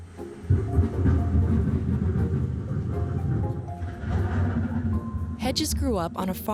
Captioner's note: thunder rumbling